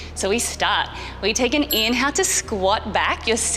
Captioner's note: bell chimes